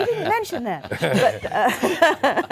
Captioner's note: all laughing